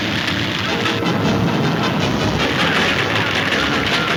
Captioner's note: exciting music; hooves thundering